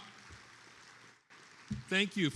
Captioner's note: attendees applauding